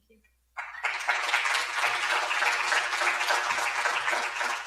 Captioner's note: audience applauds